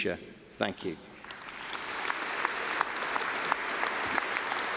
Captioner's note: applause